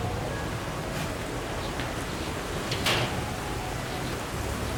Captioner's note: wind howling